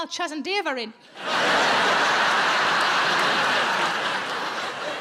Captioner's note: audience laughing